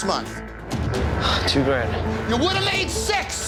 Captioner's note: sighing